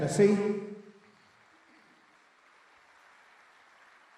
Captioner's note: applause